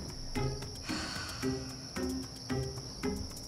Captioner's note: quirky music; sighs; quirky music